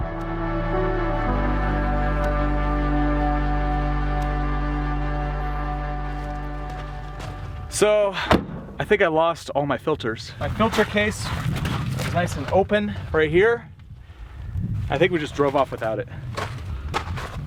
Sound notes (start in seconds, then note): 0.0 dramatic music; 8.2 door slamming